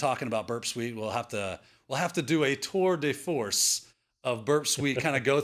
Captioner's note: speaking in foreign language; laughs